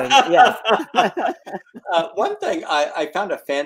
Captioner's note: laughs